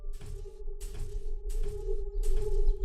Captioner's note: birds chirping